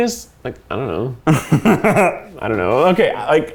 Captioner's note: laughs